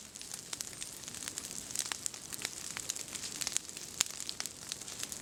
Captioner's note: fire crackling